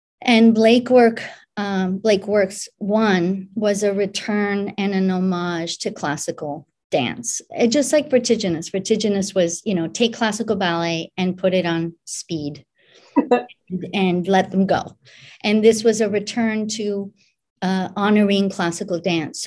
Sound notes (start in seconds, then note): 13.3 laughs